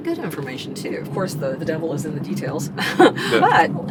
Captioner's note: laughs